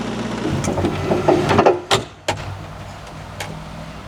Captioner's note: wood scraping